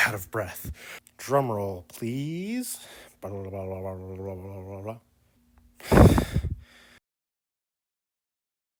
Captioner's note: miming of a drumroll, followed by a loud exhale